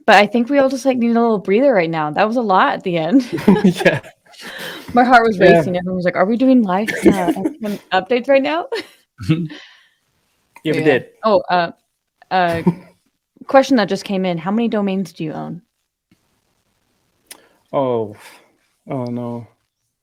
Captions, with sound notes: But I think we all just need a little breather right now. That was a lot at the end. (laughing) - Yeah. (laughing) - My heart was racing. - Yeah. - Everyone was like, are we doing live updates right now? (man in blue shirt laughing) - Yeah, we did. - Oh. A question that just came in, how many domains do you own? - Oh. Oh no.